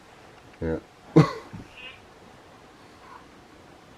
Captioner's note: coughing